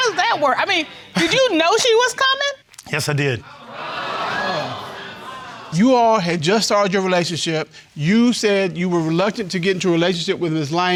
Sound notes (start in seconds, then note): 3.5 audience exclaiming